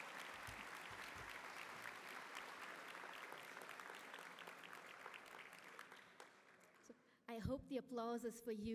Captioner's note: applause